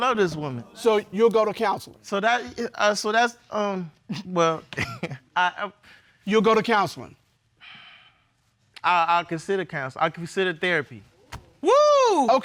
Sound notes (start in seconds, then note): 4.7 chuckles